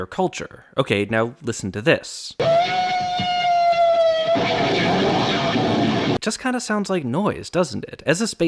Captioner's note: bang